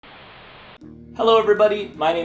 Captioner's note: Giygas static